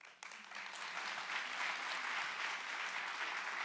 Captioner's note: applauding